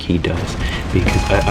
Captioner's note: inhales Oxygen